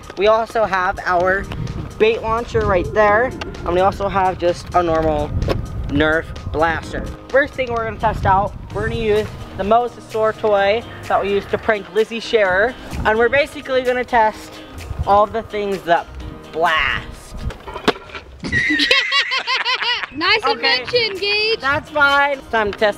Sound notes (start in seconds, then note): 17.6 crashing; 18.5 laughing